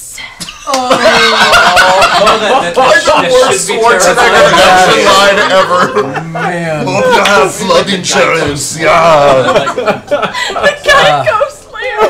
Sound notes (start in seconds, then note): 0.6 groans and laughter; 6.2 Terminator voice